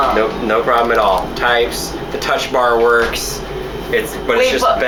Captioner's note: keyboard typing